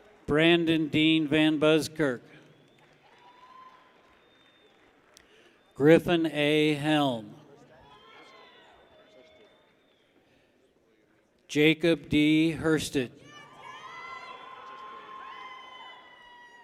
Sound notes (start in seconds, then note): 0.0 people cheer; 3.6 people clap; 7.6 people cheer; 13.2 people cheer